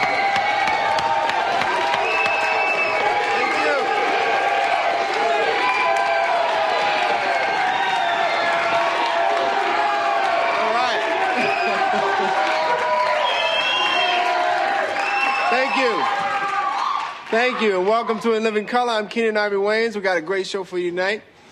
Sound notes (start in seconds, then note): 4.0 Aplausos e aplausos continuam; 11.3 Risos